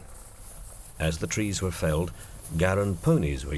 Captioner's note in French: bruits de chaîne